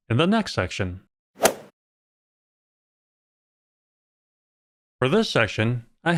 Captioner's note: golf ball hit sound